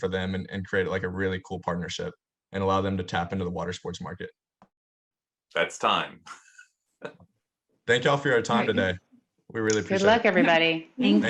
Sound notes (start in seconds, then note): 6.5 laughs